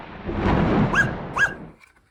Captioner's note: thunder rumble, whiney bark